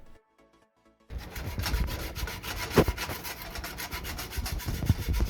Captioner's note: scraping